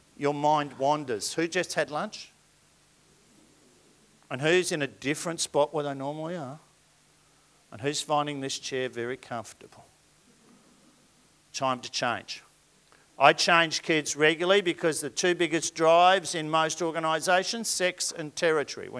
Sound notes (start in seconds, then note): none